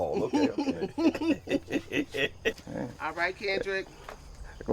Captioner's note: laughing